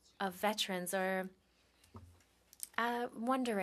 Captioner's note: speaking French